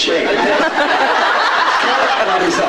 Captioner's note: laughs